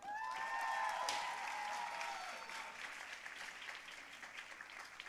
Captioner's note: audience cheering and applauding